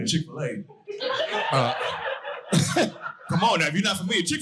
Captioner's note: audience laughing